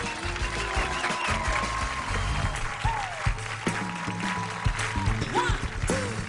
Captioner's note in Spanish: Aplausos